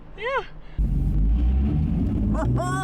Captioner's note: engine revving